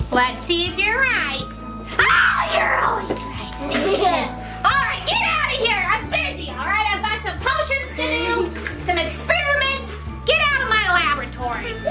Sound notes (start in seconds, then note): 3.6 laughs